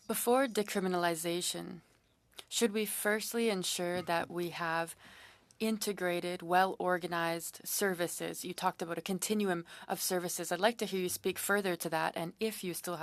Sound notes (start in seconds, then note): 5.5 speaking French